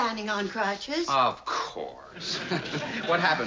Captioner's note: laughs